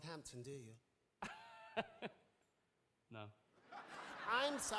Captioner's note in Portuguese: audience laughing; laughs